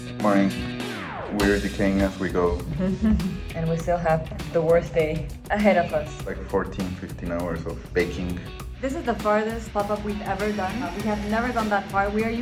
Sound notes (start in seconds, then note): 2.5 laughs